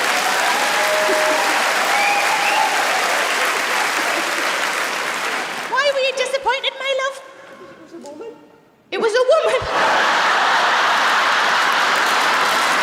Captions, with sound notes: (APPLAUSE) Why were you disappointed, my love? - It was a woman! - It was a woman? (LAUGHTER AND APPLAUSE)